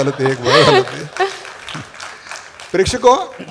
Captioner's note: applause